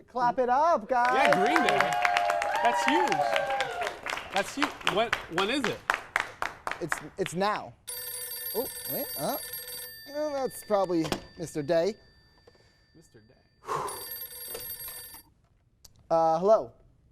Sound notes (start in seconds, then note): 1.0 whoops + applaus; 7.7 telephone ringing; 13.6 takes a breath